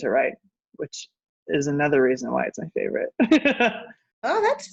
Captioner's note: laughs